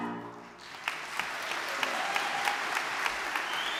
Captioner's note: audience clapping